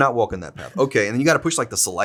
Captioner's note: Zack chuckles